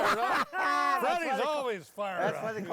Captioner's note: laughing